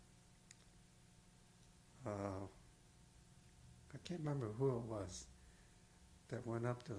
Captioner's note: pauses for 3 seconds